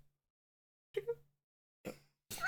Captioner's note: giggles